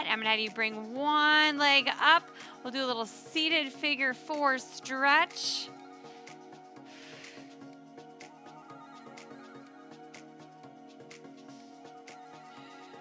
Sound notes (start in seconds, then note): 6.9 exhaling deeply; 9.6 upbeat lively music